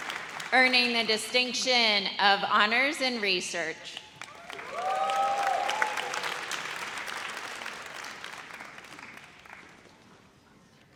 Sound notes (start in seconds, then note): 4.1 audience applauds